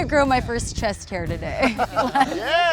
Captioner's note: laughter